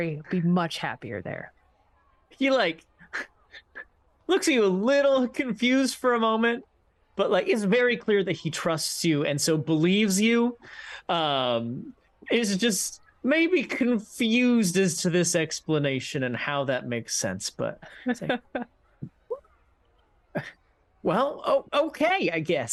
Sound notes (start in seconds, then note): 17.9 laughs